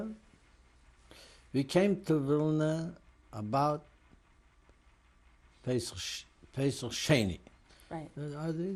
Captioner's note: non-english